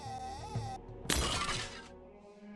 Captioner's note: loud crash